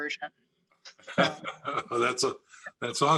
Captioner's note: all laugh